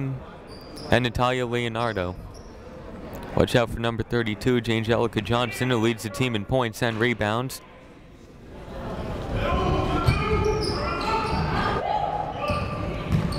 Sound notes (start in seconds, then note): 9.3 people shouting in the crowd